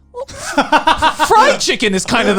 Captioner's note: laughs